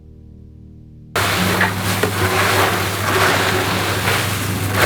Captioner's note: popcorn rustling